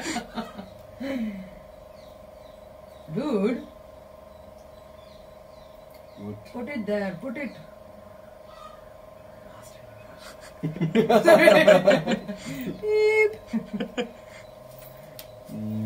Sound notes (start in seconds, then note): 3.2 in an Indian accent; 6.3 in an Indian accent; 10.2 laughter